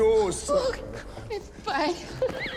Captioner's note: laughs